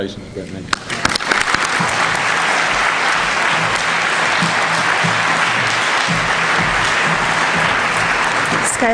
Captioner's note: applause